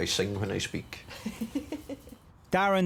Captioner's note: person laughs